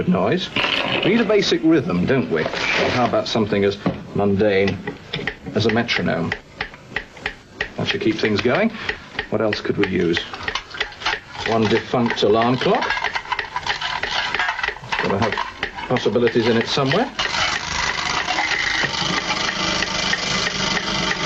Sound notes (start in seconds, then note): 5.3 metronome clicks; 18.3 clock rattles loudly